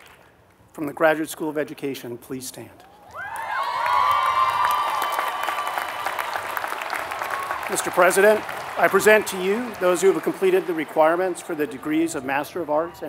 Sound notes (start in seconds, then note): 3.1 applause